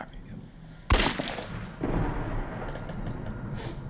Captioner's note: gun firing